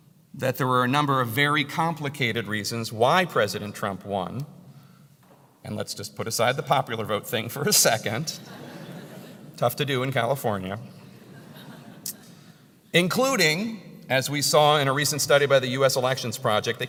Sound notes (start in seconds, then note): 8.4 laugh; 11.1 laugh